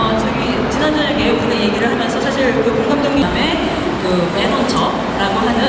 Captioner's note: speaking Korean